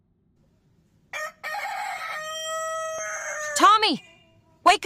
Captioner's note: rooster crows